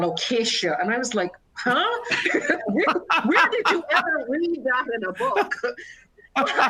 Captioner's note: laughter